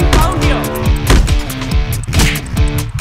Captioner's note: Boxing punch